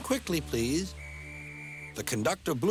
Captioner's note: blows whistle